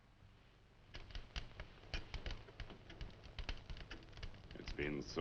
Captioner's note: fire crackling